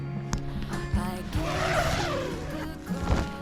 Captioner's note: zipper